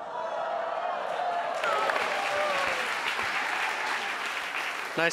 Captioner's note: audience applauds